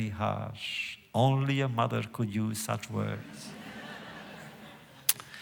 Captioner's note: laughter